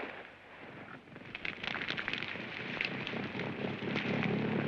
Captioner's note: gunshot; flames crackling; airplane rumbles away; flames crackling